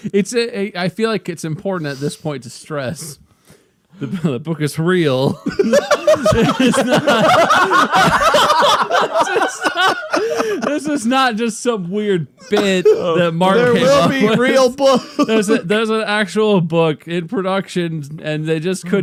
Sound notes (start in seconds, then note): 5.4 cackling laughter